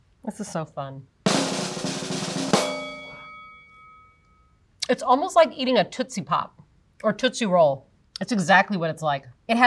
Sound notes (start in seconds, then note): 1.2 drum roll; 2.5 bell dings